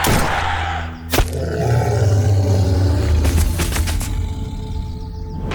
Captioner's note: snake growls